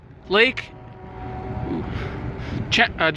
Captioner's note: faint Train Horn